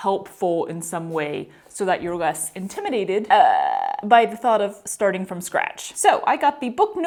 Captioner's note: uuuuuh